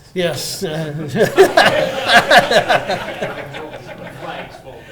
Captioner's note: laughing